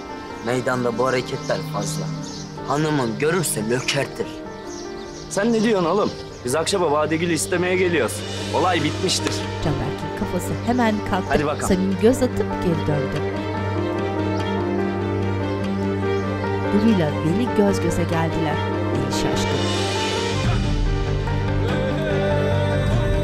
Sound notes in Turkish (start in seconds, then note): 12.2 Kuş cıvıltısı sesleri